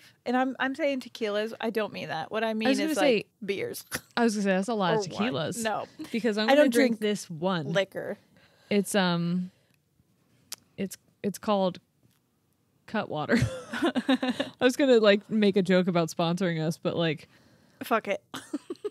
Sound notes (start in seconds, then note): 13.3 chuckling; 18.3 chuckling